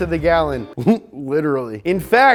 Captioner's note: chuckles